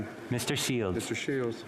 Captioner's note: speaking French